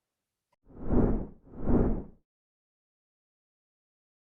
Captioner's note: whoosh sound